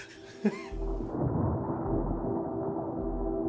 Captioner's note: storm rumbling